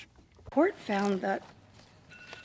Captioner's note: speaking in French